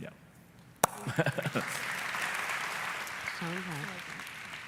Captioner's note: applause